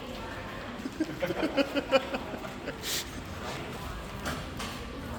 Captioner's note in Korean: 그저 웃음만 남